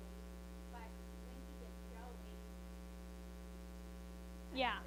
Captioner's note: speaks faintly; speaks faintly